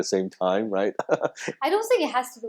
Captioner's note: laughs